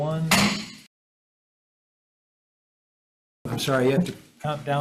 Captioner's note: gavel thuds